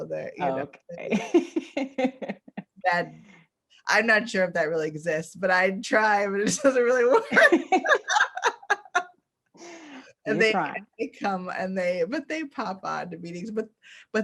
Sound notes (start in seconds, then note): 1.2 laughs; 7.3 both laugh